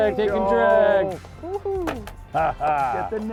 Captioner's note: everyone cheers